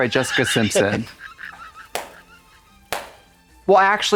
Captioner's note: Katya hisses and hits